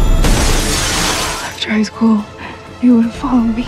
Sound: dramatic music; explosion

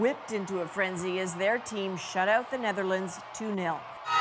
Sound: cheers and Applause

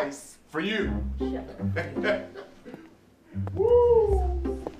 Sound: chuckles

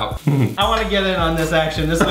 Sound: laughs

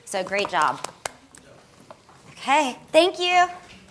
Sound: claps

